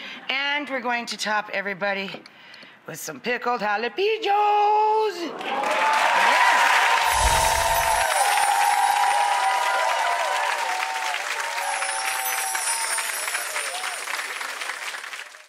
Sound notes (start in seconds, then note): 5.5 audience applauding; 5.5 audience cheering; 7.1 chimes dinging softly